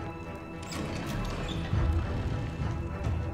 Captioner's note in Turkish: Kapı Açılma Sesi